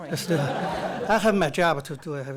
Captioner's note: audience laughs